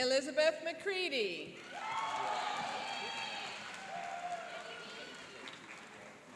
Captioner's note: cheering and applauding